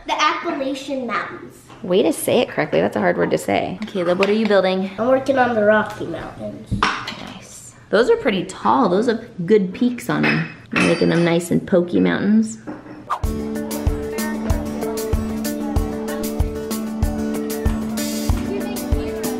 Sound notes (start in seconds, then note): 13.1 upbeat music; 16.0 chattering